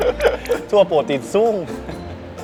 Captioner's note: in Southern Thai accent